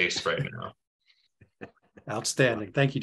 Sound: laughs

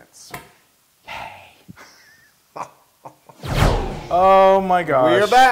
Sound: laugh

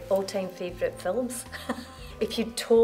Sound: laughter

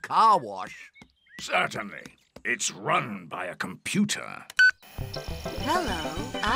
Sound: beeps

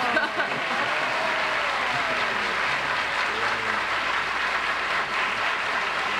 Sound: cheers and applause

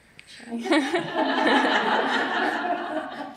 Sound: laughter

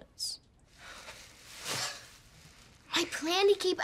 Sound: sighs

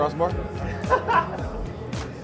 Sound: laughs

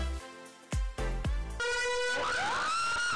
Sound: slow motion scream

